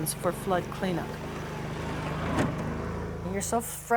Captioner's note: ATV motor